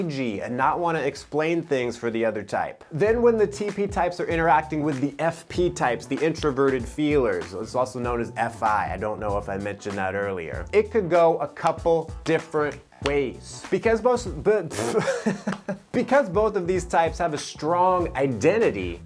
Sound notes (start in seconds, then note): 14.8 giggles